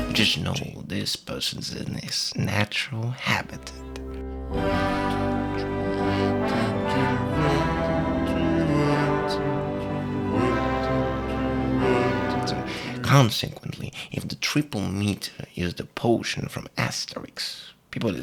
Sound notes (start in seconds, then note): 4.5 miserably